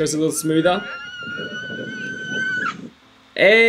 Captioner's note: girl squealing